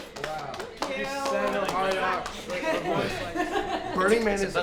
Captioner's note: applause